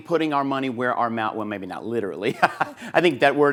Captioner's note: laughs